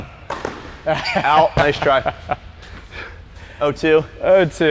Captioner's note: laughs